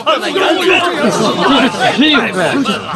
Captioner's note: wild dogs barking